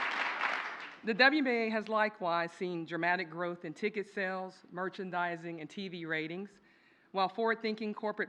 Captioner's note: applause